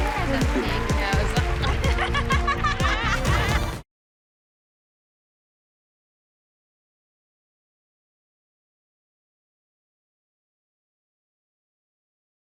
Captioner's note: laughing